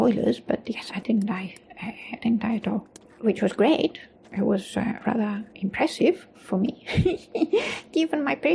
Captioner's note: giggles